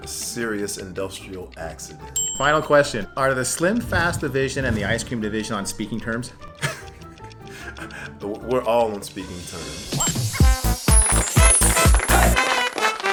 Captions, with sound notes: - Serious industrial accident. - Final question, are the SlimFast division and the ice cream division on speaking terms? (laughs) - We're all in speaking terms. (upbeat music)